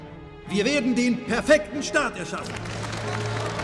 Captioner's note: speaking in German; clapping